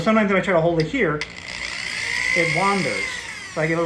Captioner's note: drill whirring